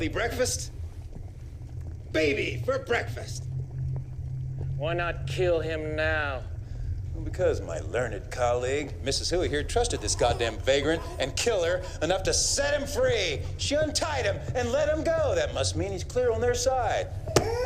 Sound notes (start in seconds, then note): 13.0 crying Continues